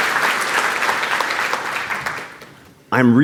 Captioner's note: applause